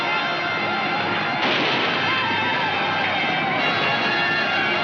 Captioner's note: gunshot fires